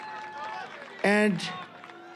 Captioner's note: cheering